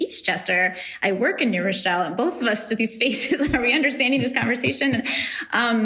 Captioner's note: laughs